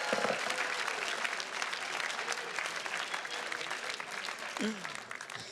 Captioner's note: attendees cheers and claps; gavel pounds; attendees clapping